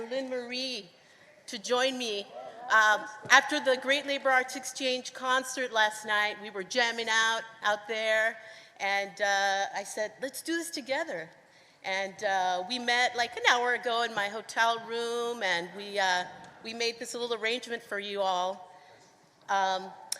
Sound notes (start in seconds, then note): none